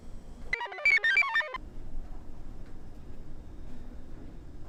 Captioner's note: computer chirps